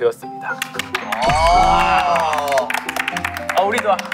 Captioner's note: applaud